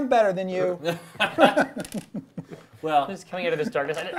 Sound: laughing

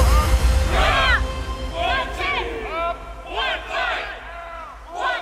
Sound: commands shouted, troops responding

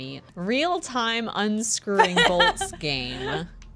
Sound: laughter

